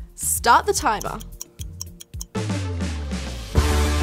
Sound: timer ticks; lively upbeat music

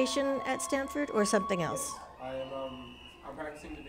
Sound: audience cheering

